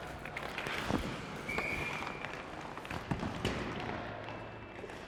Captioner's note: whistle blows